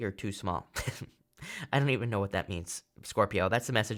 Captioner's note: chuckles